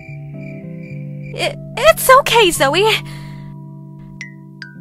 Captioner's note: crickets